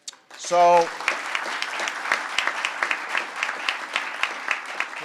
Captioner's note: applause